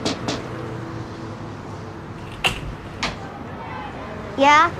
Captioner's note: knocking on door